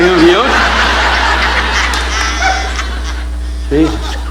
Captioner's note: audience laughing